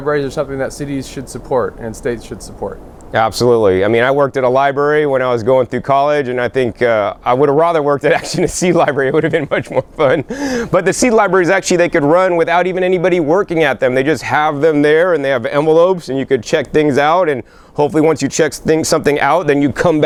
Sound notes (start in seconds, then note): 8.0 laughter